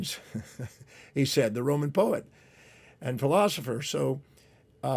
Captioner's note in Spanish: risas